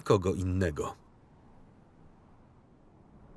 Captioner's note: wind whistles